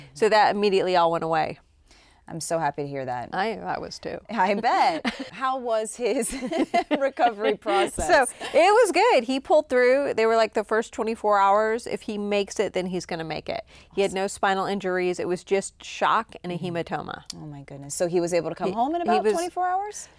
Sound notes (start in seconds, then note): 6.2 chuckles